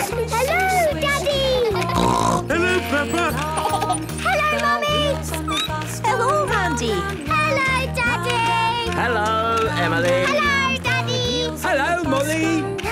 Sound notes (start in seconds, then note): 1.8 snorting; 2.9 laughter; 5.3 squeaking